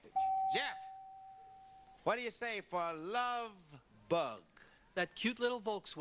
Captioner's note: beep